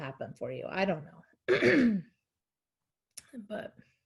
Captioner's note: clearing her throat